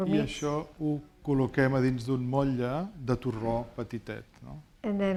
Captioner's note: speaking spanish